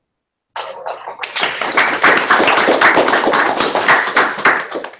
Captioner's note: applause